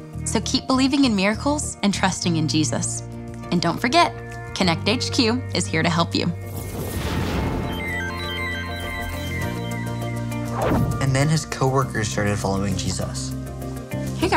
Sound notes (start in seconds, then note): 6.8 loud whooshing; 7.0 electronic chiming